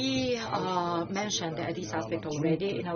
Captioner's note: foreign language